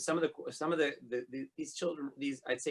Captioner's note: stammering